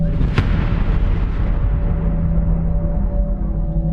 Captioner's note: suspenseful music; explosion booming